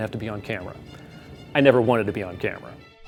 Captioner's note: none